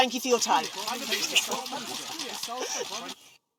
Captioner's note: reporters clamour